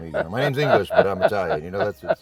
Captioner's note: judge laughs